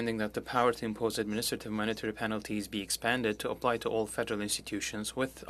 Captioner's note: speaking French